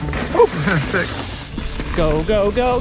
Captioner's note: chuckles